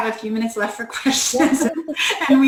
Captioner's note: laughter